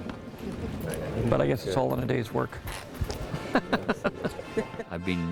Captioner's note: laughs